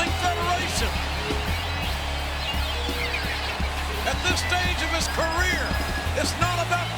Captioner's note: applause